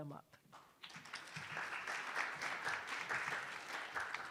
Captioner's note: attendees applauding